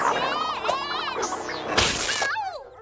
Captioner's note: fabric tears; Milo grunts